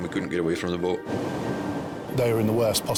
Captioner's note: water whooshing